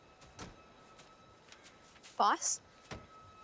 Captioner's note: doors close